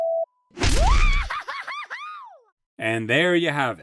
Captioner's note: bot screams